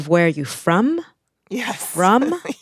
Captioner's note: laughter